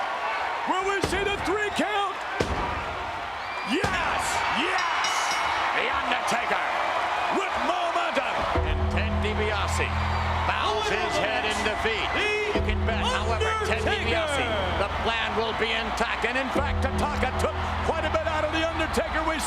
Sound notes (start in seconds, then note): 4.7 bell rings